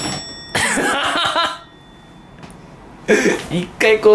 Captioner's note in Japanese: 爆笑